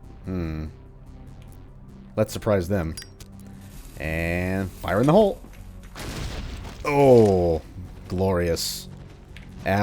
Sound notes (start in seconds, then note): 5.9 kaboom